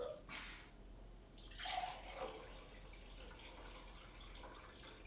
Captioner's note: running water